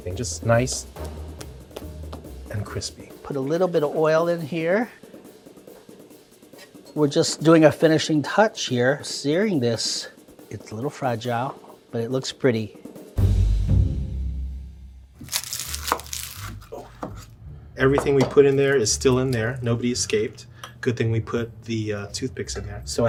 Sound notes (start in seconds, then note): 15.2 chimichanga crunching